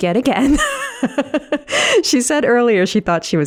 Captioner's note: laughing